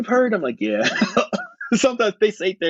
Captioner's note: laughing